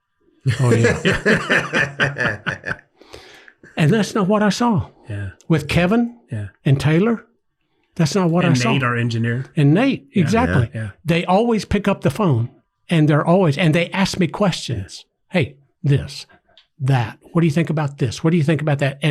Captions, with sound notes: Oh yeah. (everyone laughs) And that's not what I saw. With Kevin and Taylor, that's not what I'm- - And Nate, our engineer. - And Nate, exactly. They always pick up the phone and they're always, and they ask me questions. "Hey, this, that. "What do you think about this? "What do you think about that?"